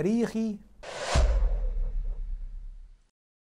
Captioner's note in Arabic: مُؤَثِّرَات صَوْتِيَّة